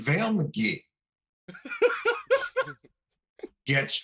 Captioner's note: laughter